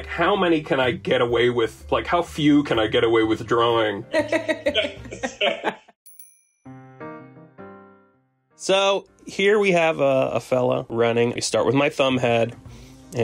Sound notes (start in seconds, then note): 4.2 laughs; 8.5 soft upbeat music